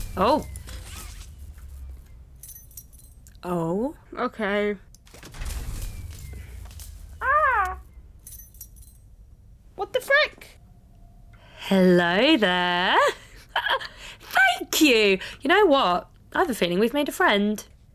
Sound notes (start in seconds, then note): 0.0 mechanical powering down noise; 2.1 keys jangling; 5.2 mechanical powering down noise; 8.1 keys jangling; 13.1 laughs